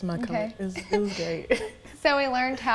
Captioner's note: laughing